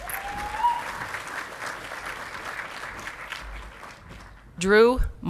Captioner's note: audience clapping and cheering